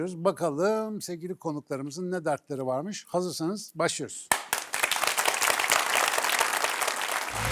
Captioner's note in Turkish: alkış